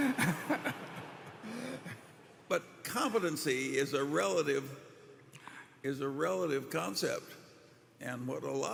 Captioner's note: laughter